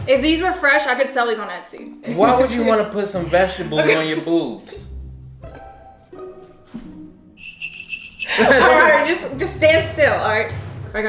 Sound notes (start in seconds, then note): 5.6 light hearted music; 7.3 bells jingling